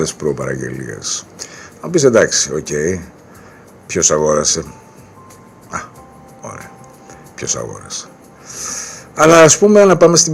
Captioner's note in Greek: χαχανίζει